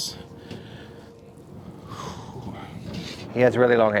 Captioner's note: speaker sighs